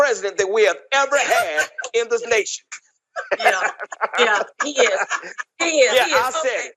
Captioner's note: laugh